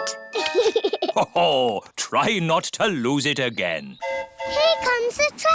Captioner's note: giggles; train horn hooting